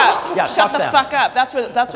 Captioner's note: comics laughing